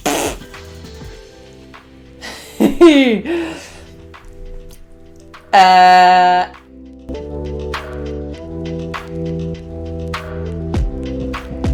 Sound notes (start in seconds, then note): 2.2 laughs; 2.2 coughs